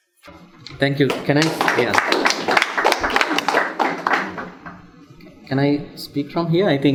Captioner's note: audience applauds